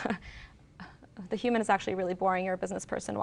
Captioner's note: chuckles